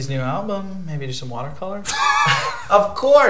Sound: Robert and Alex chuckle

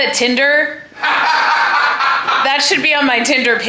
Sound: laughing

